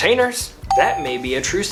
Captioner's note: bell ring